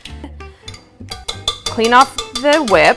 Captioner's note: attachment clinking